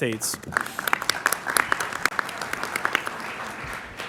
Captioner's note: applause